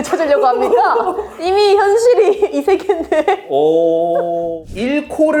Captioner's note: laughs